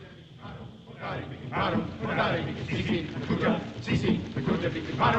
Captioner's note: chanting